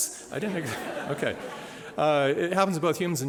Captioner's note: laughter